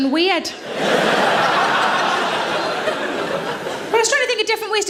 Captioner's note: audience laughing